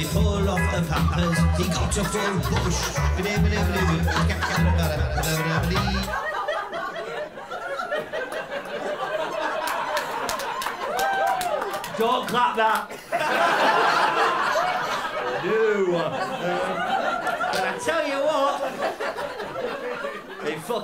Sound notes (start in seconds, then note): 5.0 music abruptly stops; 7.4 laughter; 9.5 applause; 12.8 laughter